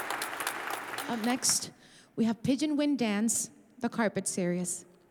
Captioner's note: audience applauding